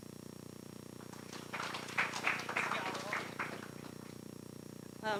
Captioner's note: applause